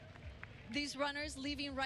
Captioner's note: applause